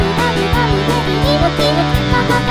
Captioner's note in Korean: 끼룩끼룩